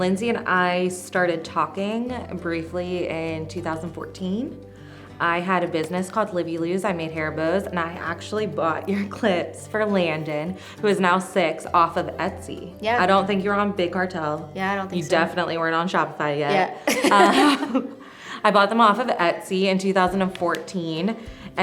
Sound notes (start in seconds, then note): 16.5 laughs